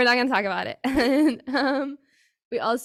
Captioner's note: person laughing